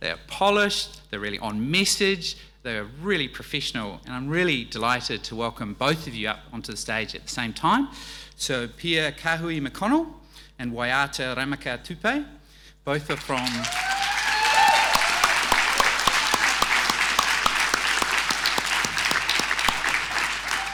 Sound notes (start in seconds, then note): 13.1 audience cheering; 17.4 audience applauding